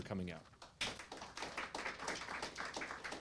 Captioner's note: applause